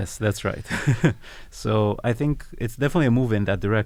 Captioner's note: laugh